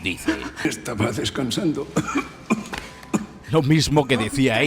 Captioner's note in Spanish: tos de "tengo un pie en la tumba"